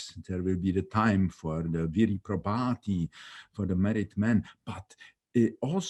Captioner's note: speaking in foreign language